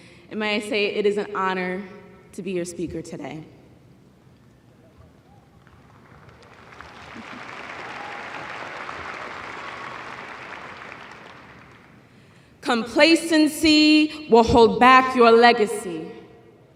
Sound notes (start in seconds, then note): 5.5 applause